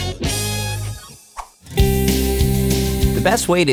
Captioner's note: air swooshing